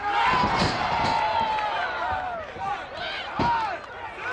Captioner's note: audience cheers